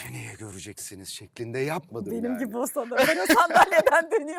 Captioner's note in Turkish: kahkaha